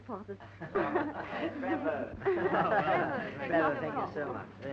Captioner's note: chattering